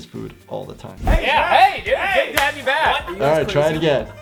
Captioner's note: group chattering